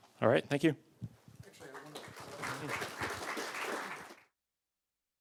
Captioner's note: applause